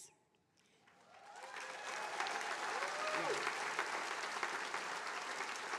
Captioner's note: attendees cheering and applauding